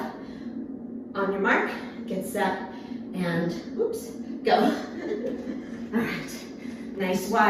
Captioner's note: chuckles